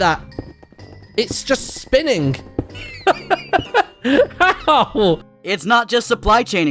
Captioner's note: laughs